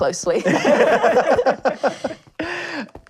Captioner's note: laughing